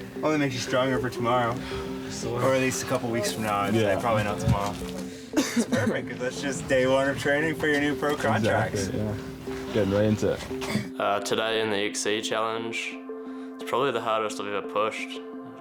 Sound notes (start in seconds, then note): 5.2 coughs